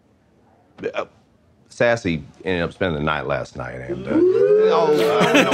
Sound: stammers

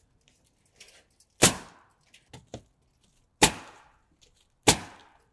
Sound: nail gun bangs

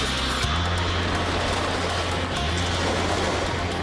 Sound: coaster rumbling

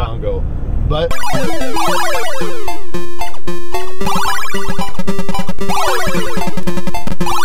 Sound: game chiming; upbeat game music

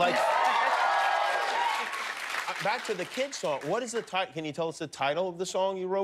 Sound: cheers and applause

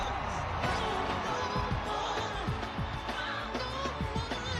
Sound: yelling

